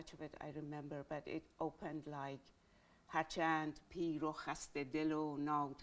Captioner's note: speaking in Farsi